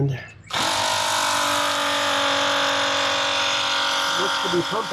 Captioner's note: macerator pump swirling sound